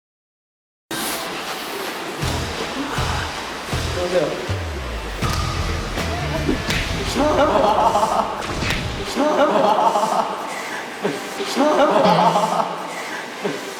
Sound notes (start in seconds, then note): 6.6 claps